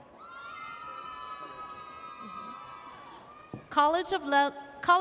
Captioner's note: audience cheers